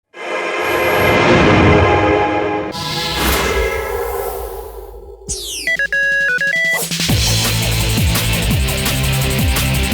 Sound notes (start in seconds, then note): 5.6 phone rings; 7.4 energetic music